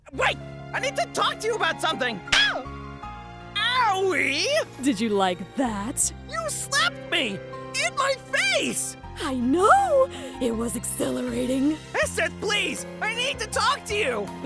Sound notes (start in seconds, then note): 2.2 sudden slap